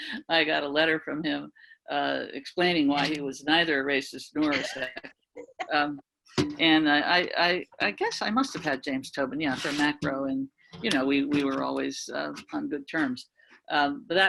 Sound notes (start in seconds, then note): 4.4 many laughing